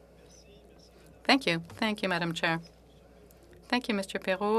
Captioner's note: speaking French